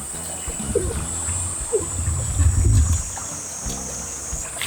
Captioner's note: laughs